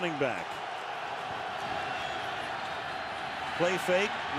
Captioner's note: crowd cheering